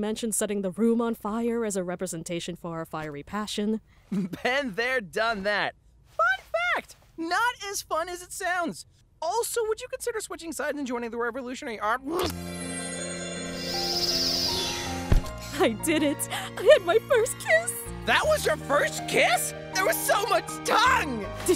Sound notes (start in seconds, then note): 15.0 soft thump